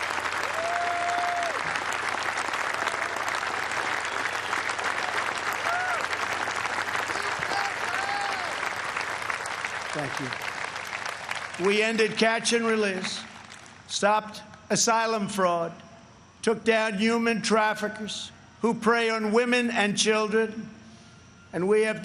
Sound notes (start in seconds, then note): 1.6 cheers and applause